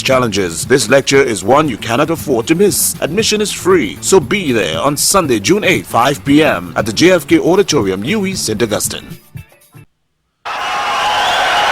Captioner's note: wild applause and cheering for 22 seconds